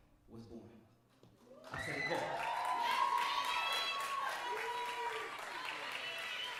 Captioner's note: cheering and applauding